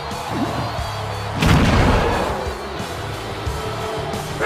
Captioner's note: crowd booing